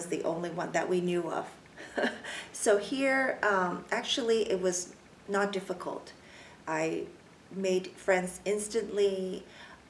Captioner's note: laughs